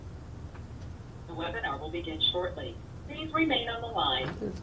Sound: automated Voice

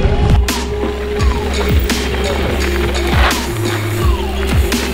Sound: bike whizzes

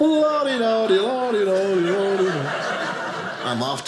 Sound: audience laughing

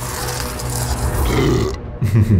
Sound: Brutus burps; farmer Laughs

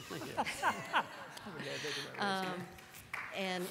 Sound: laughter

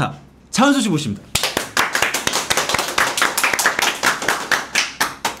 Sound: welcoming the top star with enthusiastic applause

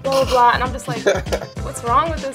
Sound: man chuckling

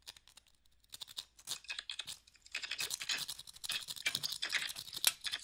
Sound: knife rubbing against rock

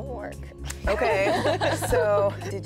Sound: all laugh

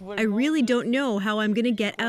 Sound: speaking French

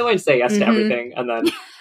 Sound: laughs

